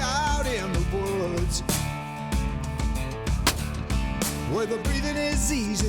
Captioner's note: gunshot